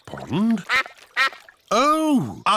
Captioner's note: quacking